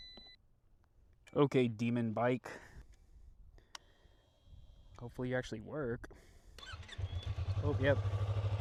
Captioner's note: bike starts up